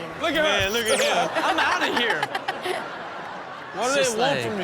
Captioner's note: audience laughs